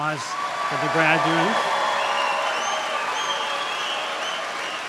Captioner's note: applause